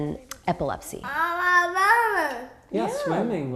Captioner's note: babbling